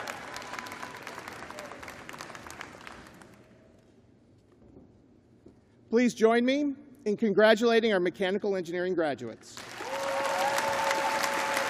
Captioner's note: cheers and applause